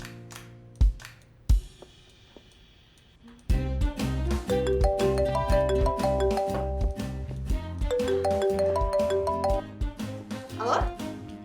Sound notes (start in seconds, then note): 0.0 cheerful music; 4.4 phone ringing